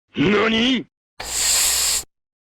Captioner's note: inhales